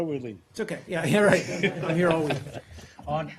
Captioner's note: laughter